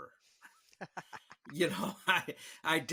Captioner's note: all laughing